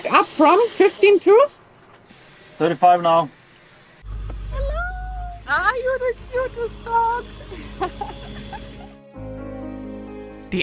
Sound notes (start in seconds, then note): 7.4 chuckling; 9.3 tranquil music